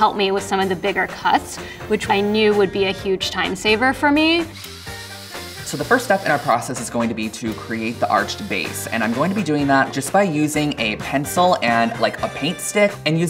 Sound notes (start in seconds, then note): 4.4 saw whirring